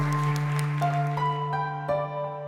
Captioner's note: applause